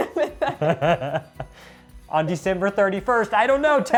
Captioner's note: both laughing